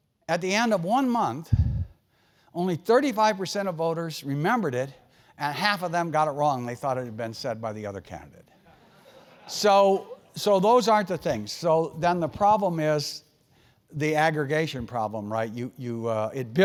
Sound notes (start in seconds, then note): 8.9 laugh